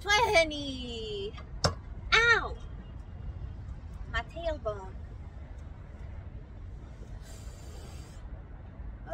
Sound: blows air

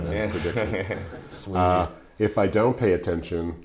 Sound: chuckling

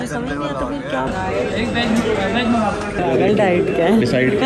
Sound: the noise of some people

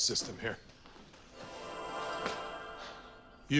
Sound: shimmering tone

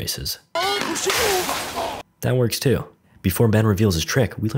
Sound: crash

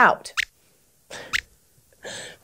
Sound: squeaks hiccups

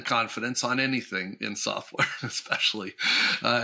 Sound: chuckles

